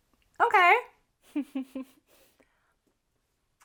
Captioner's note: laughs